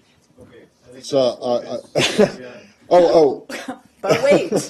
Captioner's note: laughter